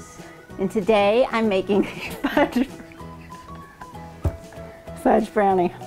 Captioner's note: laughing